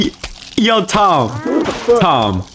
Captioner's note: something in Spanish